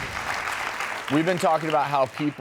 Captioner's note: audience applauding